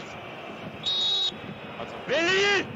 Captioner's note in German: Pfiff